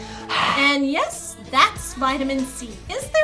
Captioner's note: snarls; voiceover